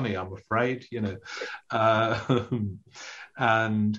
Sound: chuckles

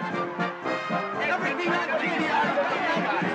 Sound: indistinct shouting

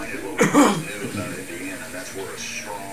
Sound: man coughs; man On Radio

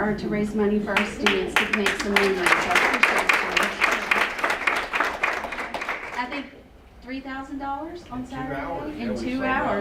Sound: applause

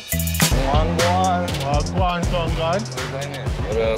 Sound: foreign language

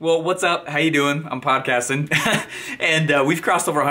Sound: laughing

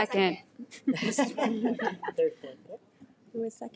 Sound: laughs

